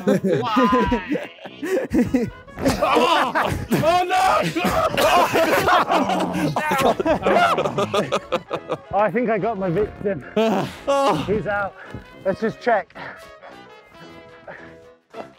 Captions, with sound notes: - Why? [men laughing] - I think I got my victim. He's out. Let's just check.